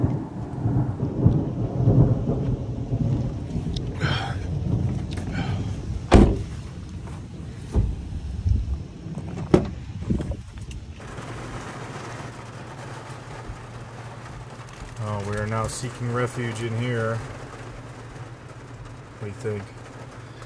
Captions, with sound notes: (thunder rumbling) (door closing) (rain falling) Oh, we are now seeking refuge in here. What do you think?